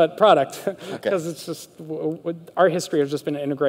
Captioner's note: light laughter